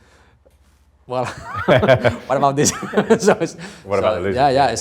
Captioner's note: group laugh